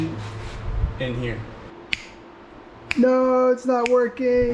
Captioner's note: snaps, snaps, snaps